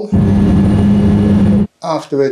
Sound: plane engine rumbling

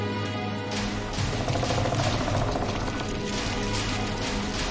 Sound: centipede growls

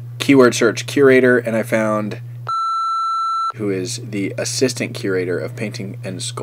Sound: beep

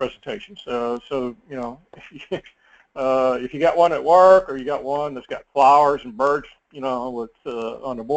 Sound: laugh

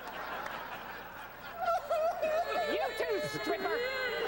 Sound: crying

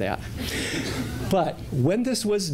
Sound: laughter

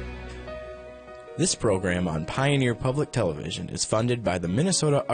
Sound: voiceover

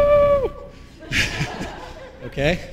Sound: laughter

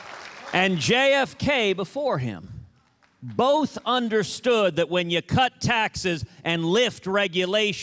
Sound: applause

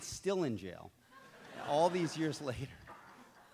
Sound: audience laughs

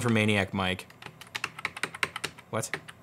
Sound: typing on keyboard

